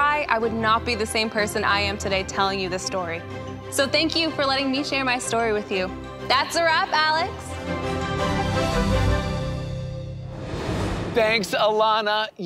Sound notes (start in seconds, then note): 8.5 air whooshing